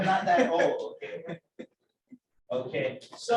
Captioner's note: laughter